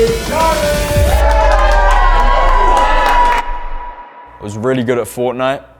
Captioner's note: audience cheering